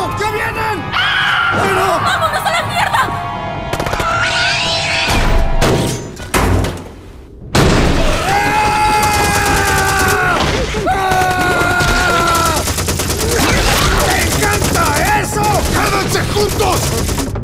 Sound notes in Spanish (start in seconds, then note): 8.2 Gritos machos pero sensuales; 10.9 Gritos sensuales pero ya no tan machos